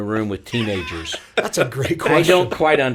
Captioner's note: laughing